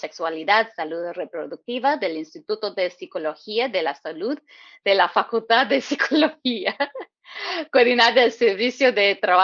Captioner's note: laughs